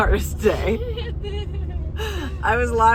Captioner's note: giggles